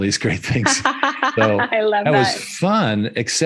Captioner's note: laughing